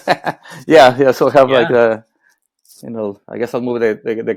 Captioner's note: laughing